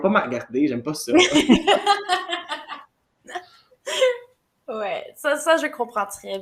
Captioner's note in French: rires